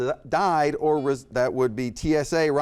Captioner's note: beep